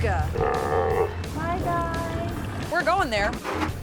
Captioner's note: seals croaking